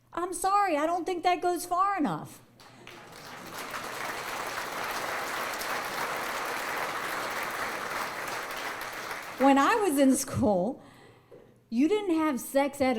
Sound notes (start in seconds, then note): 2.6 audience applause